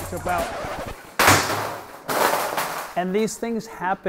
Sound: record scratch; crashing

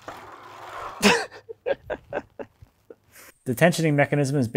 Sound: laughing

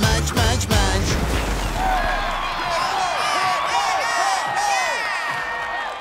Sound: cheering

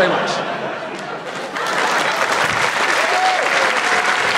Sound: applause

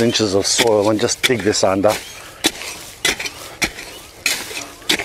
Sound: hoe rustles

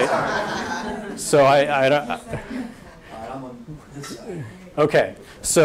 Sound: audience laughter and inaudible audience comment

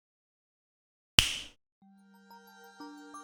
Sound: snap

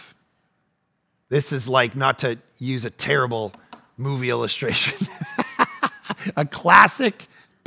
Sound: narrator laughing

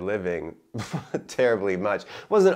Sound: chuckling

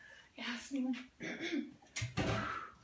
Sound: clears throat

